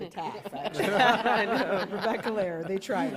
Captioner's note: laughter